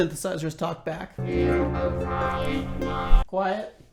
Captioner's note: Electronic voice